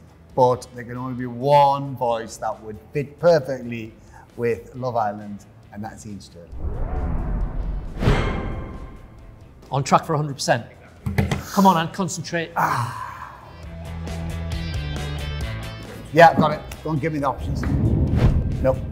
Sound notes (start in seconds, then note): 8.0 dramatic music; 12.6 Ant sighing; 18.0 whooshing